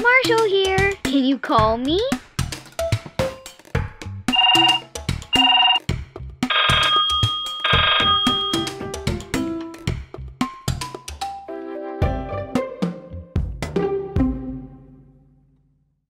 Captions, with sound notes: Marshall here, can you call me? (phone chirps) (phone rings) (playful music)